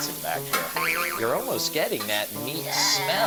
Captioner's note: springing effect plays